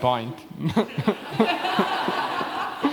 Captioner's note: laughter